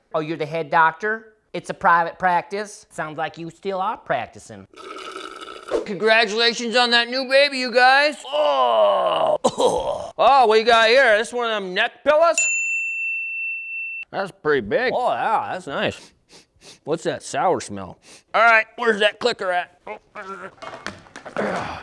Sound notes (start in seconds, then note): 16.0 sniffing; 21.2 grunting